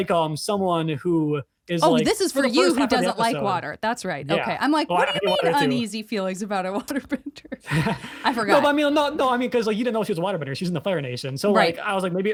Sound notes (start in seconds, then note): 7.6 laughs